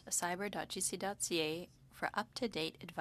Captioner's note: speaking French